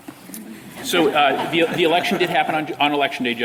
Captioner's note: laughter